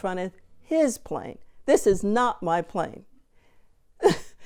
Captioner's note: laughing